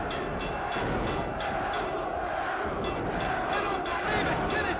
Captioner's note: crowd chants "Sabu"